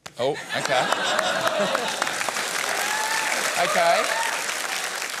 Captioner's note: laughter and applause